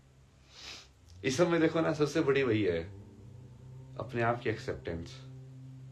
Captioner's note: नाक से की जाने वाली आवाज़